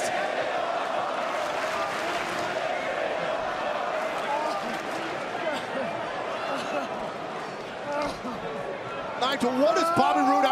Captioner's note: crowd cheering